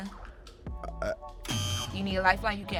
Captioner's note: buzzer